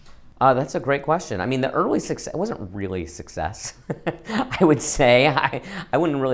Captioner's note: laughs